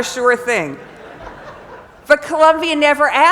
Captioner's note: laugh